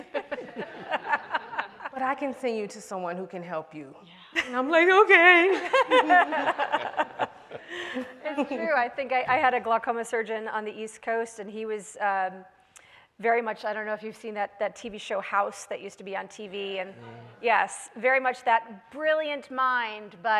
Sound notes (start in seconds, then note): 0.0 everyone laughs; 5.6 everyone laughs